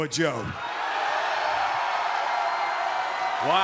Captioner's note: cheers and applause